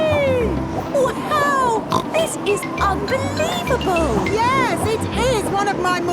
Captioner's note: snorts